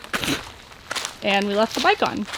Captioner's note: pff